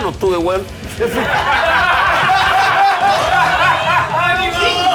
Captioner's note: laughs